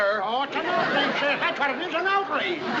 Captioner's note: audience laughs